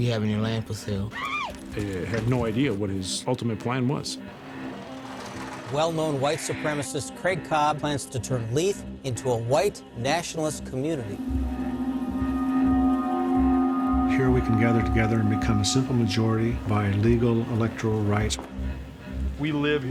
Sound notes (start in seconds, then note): 1.2 high pitched whoop; 2.7 voiceover; 6.3 voiceover; 11.2 eerie music; 14.3 voiceover; 19.7 voiceover